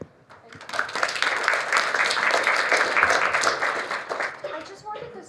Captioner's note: applause